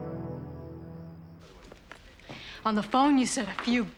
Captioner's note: none